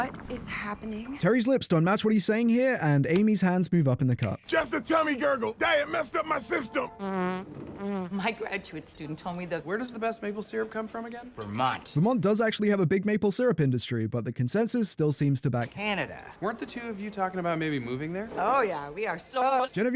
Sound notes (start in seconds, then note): 0.0 Terry's tummy noises; 6.7 Terry rips ass